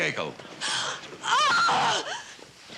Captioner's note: screams